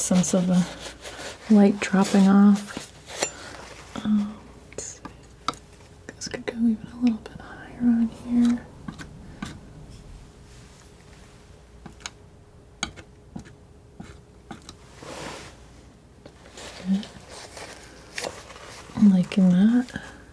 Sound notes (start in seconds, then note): 10.8 scratching